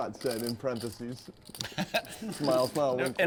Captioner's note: laugh